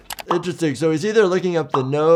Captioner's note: bubble popping